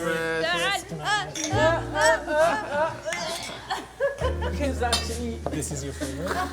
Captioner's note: groups begins to chant toast